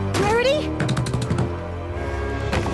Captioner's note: pounding